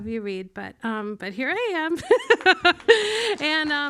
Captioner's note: laughs